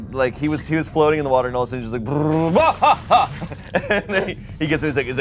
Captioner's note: whirs and yells